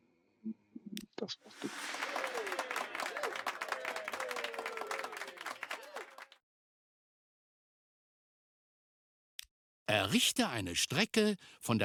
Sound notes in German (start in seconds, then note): 1.5 applaus; 6.9 jubel